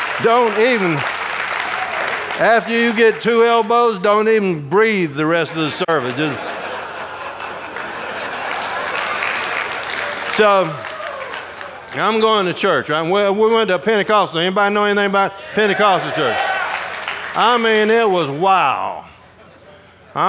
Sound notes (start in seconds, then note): 9.1 audience applauding